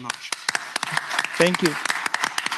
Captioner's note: applause